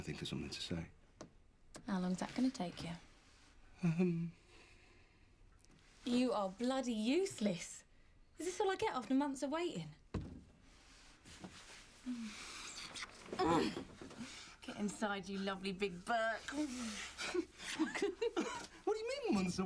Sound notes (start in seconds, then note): 13.3 Shauna moans; 16.9 Shauna giggles